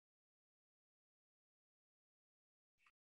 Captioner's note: silence